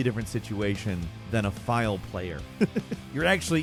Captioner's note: chuckles